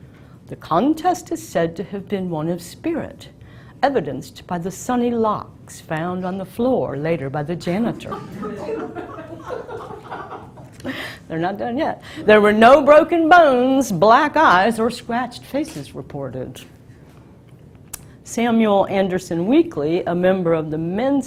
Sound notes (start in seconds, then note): 8.0 laughs